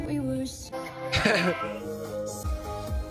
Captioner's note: chuckles